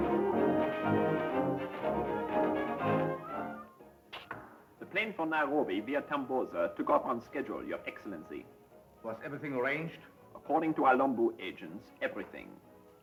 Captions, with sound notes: (heels click) - The plane from Nairobi via Tambosa took off on schedule, your Excellency - Was everything arranged? - According to our local agents, everything.